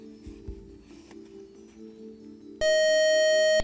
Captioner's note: buzzer